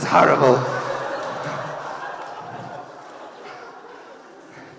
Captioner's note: audience laughing